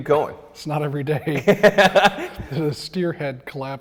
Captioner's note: laughs